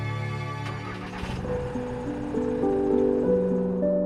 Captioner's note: engine starting; whimsical music